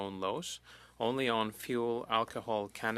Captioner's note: speaking French